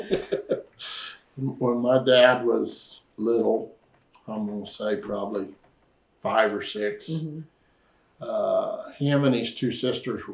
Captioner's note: laughs